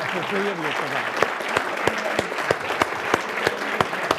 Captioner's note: applause